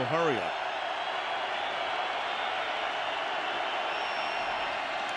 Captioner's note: crowd cheering